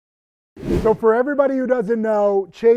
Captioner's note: wind whooshing